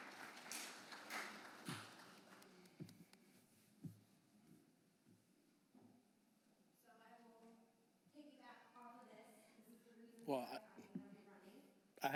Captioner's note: applause